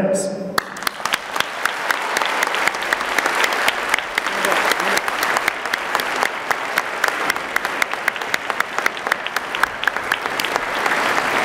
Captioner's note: applause